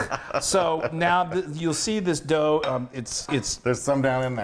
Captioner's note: laugh